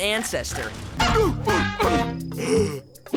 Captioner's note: moaning